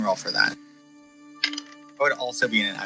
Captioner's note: dice rolling sounds